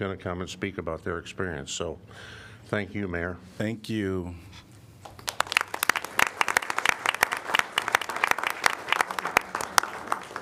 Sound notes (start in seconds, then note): 5.0 applause